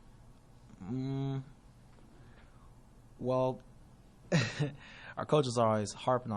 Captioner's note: chuckles